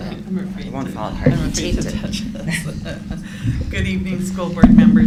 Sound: laughter

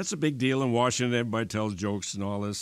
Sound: none

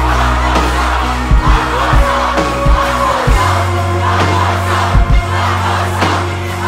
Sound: crowd chanting

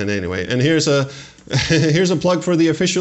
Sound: chuckle

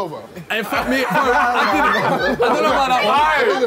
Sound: laughing

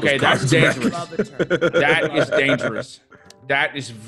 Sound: laugh

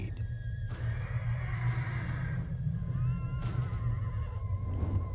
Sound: horses whinnying

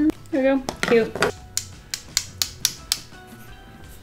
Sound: tapping

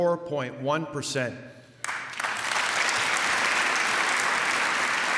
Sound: applause

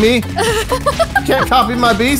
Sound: laughs

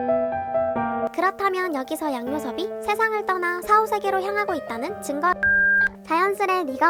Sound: beep

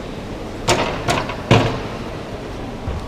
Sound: ramp clanging

